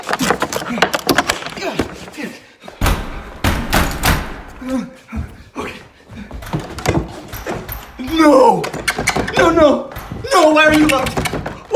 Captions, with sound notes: (door lock clattering) Damn it. (pounding on door) Okay. No! No, no, no! Why are you locked?